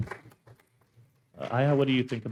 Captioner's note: audience members applauding